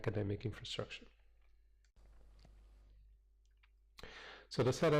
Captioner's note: pause